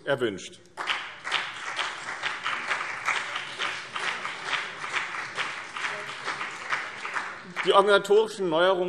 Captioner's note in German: Beifall BÜNDNIS 90/DIE GRÜNEN